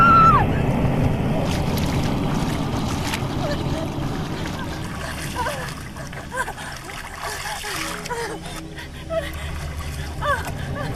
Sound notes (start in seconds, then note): 5.4 Kate whimpering